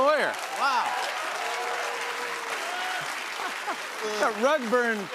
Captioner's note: cheers and applause